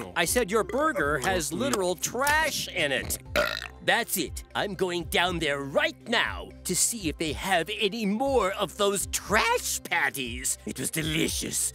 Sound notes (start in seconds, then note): 2.9 belching